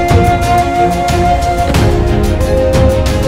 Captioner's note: Car door closes